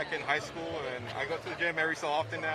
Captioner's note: laughter